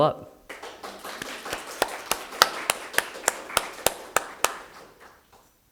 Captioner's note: audience applauding